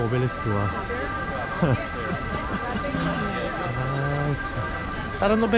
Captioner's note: laughing